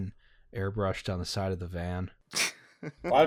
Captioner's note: laughter